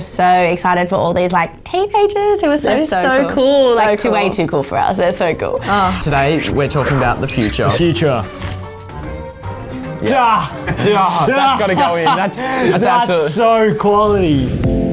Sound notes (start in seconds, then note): 8.6 lively music; 11.9 laughs; 14.7 rhythmic music